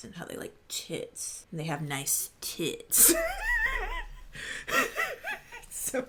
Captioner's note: laughing